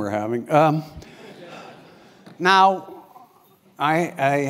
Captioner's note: laugh